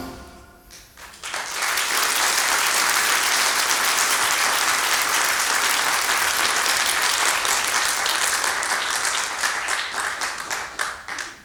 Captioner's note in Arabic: توقف الموسيقى. تصفيق